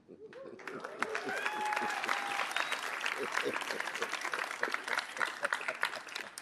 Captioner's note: audience applauding and cheering